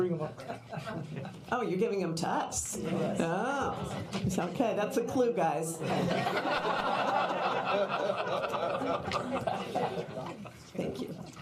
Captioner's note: laughter